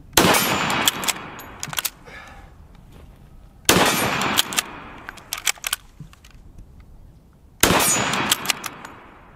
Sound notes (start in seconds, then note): 0.2 gun shot; 3.7 gun shot; 7.6 gun shot